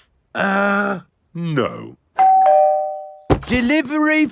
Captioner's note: doorbell rings